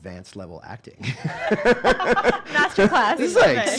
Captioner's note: laughing